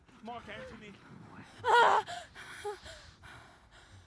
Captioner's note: gasping